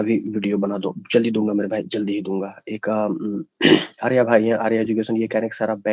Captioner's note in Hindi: गला साफ़ करने की आवाज़